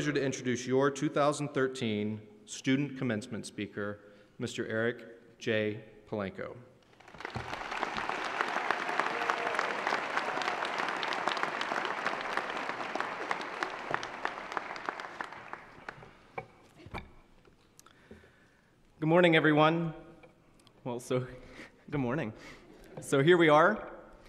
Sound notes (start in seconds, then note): 6.9 applause